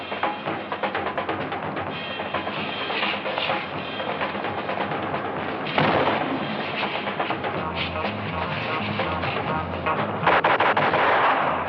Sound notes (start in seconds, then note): 5.6 gunshot; 10.2 gunshots